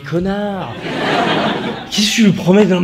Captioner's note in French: rires